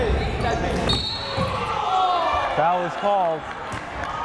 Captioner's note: loud thumping